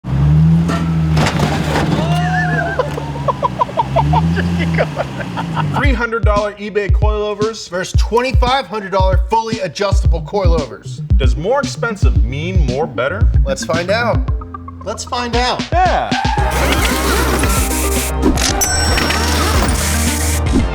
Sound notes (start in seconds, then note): 0.1 scraping; 2.6 laughter